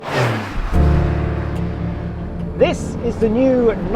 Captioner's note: car purrs past; gentle music